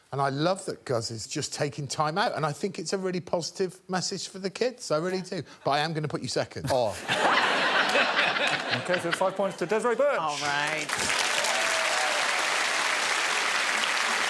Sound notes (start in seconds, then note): 6.9 laughter; 10.4 applause and cheering